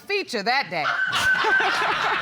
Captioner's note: laughter